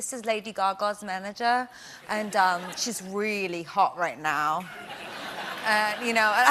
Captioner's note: english accent